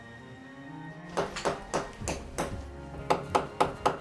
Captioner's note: hammering